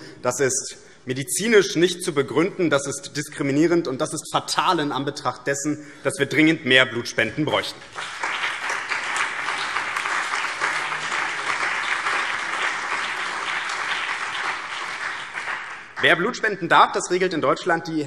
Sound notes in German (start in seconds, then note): 7.8 Beifall BÜNDNIS 90/DIE GRÜNEN, CDU, SPD, Freie Demokraten und DIE LINKE